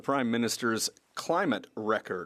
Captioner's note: speaking French